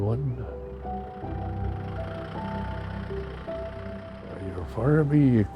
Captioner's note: tractor's engine roaring